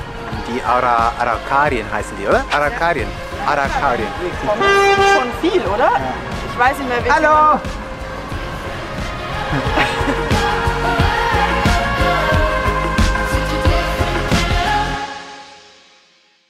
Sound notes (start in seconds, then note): 4.3 honk; 9.4 laugh